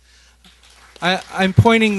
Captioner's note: applause